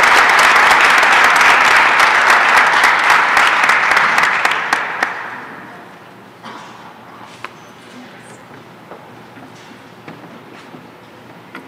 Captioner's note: applause and cheering